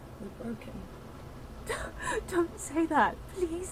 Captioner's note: sobbing